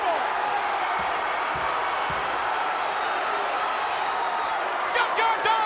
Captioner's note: crowd cheering